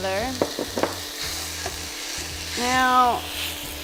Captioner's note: meat sizzling